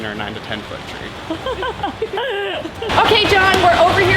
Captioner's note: giggling